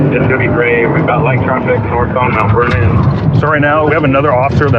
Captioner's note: radio